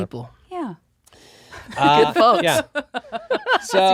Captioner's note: laughing